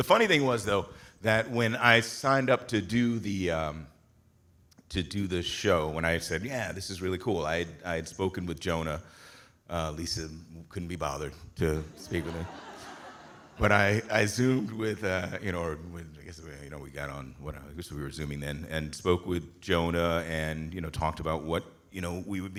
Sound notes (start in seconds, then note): 11.8 audience laughing